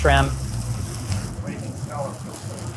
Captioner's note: scallops sizzling